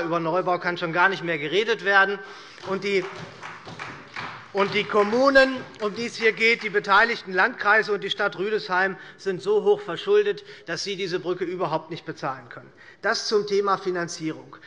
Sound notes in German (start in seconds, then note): 2.4 Beifall bei der SPD